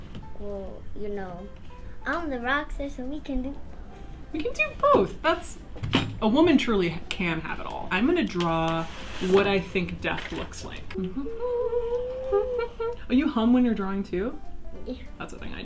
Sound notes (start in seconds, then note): 10.9 humming